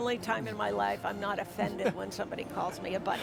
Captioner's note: chuckles